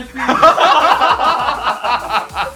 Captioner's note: laughter